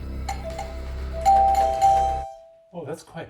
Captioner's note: bell dinging